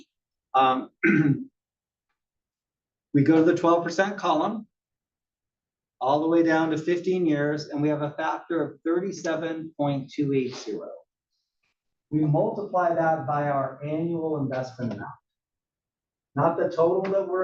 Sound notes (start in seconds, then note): 0.8 cough